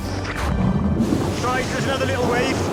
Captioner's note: water burbling